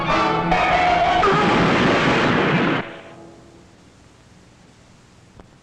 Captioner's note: tires screeching; crashing